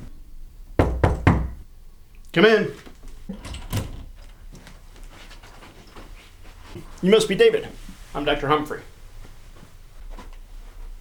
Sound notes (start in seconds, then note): 0.8 knock; 2.8 door opens